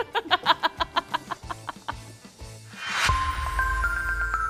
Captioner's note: both laughing